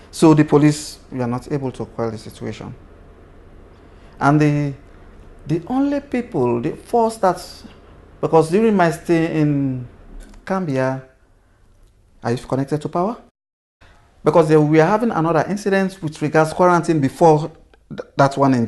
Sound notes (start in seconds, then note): 10.5 power goes out